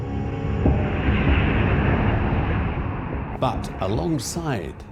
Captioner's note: train whooshing; dramatic music